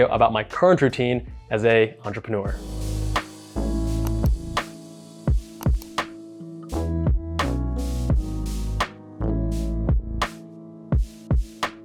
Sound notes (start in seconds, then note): 3.1 calm music; 4.0 clicking